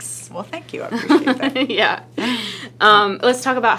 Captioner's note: laughing